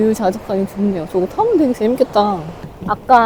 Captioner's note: laughs